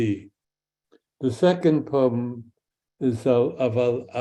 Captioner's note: speaks in Hebrew